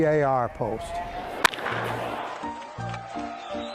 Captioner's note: ball cracking